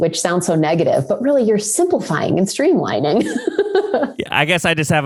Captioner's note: laughs